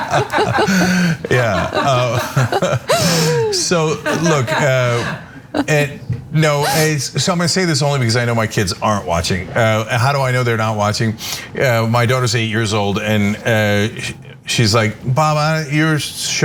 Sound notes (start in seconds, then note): 0.0 laugh